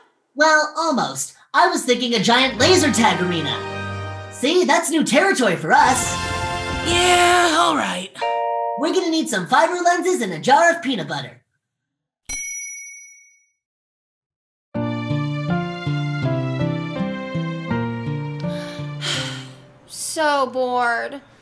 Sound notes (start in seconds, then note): 12.2 thumbs up ding; 14.8 calm music; 18.5 sigh